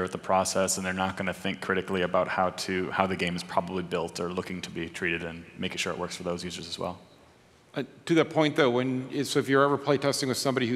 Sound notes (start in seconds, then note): none